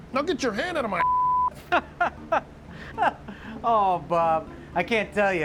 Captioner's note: laughing